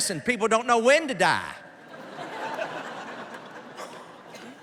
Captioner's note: laughter